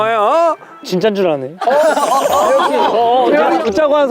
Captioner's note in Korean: Хэтэрхий чанга сонсогдох сэтгэлийн дуу хоолой